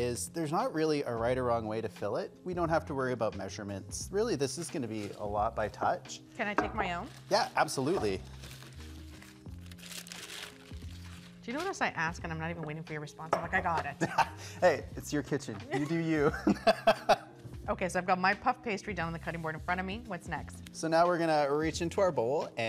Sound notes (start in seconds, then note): 15.7 laughing